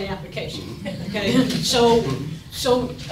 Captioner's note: audience laughing